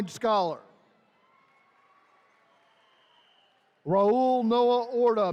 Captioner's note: attendees cheering